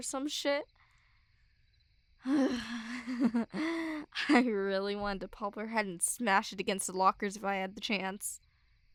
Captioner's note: frustrated sigh